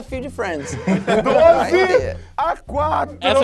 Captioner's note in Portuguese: risadas